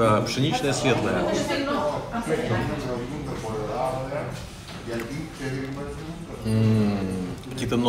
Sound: hubbub of voices

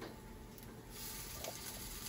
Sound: sizzling

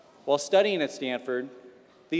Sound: none

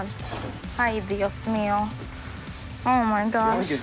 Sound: speaks in foreign language

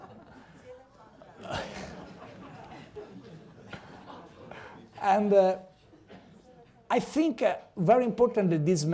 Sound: laughter

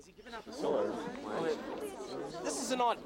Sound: muurrming

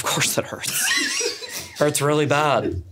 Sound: laughs

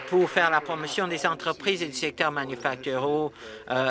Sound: applause

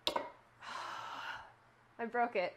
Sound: sighing

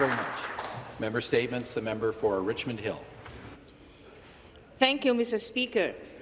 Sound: some Applause

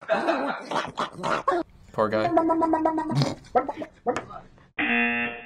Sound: dog babbling

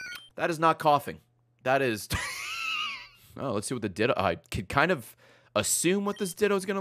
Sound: laughs

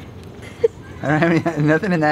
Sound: laughs

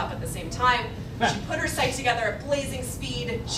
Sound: laughing

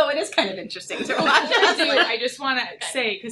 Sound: both laugh

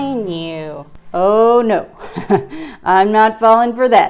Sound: laughs

